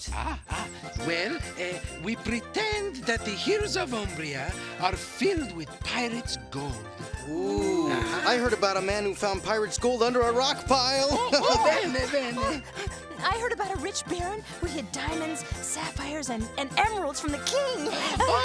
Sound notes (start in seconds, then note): 10.9 laughs; 11.5 Strega Nona speaks foreign language